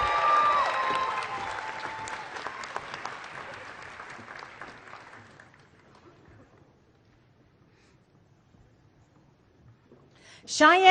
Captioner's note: applause